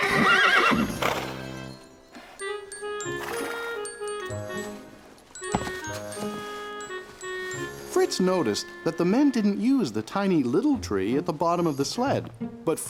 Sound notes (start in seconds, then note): 3.1 neigh!